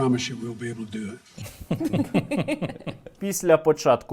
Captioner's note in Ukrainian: сміється